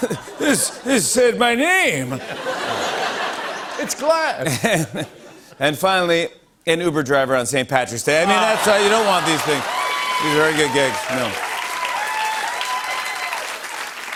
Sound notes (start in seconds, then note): 0.0 laughter and applause; 2.0 laughter; 11.0 cheers and applause